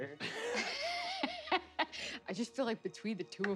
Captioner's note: laugh